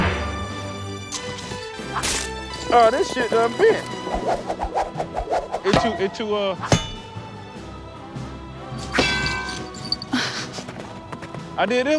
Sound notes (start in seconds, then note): 4.2 whipping; 6.6 clang; 8.9 clang; 10.0 chuckle